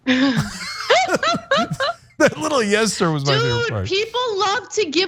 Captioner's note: laugh